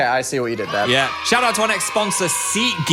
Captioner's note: people cheering